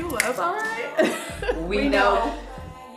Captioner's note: laughing